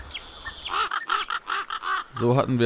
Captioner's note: birds cawing